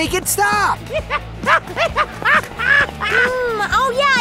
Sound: maniacal laughter

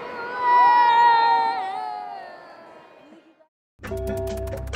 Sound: CHILDREN: "Whoa!"

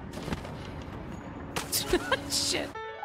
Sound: laugh

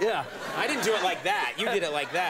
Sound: audience laughs

